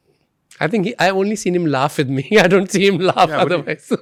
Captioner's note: laughs